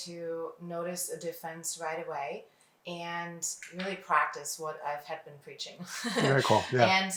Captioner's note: laughs